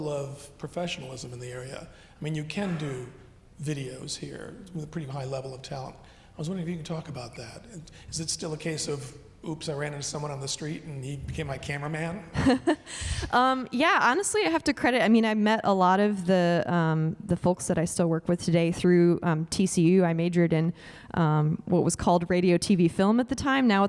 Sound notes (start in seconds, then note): 13.3 laughs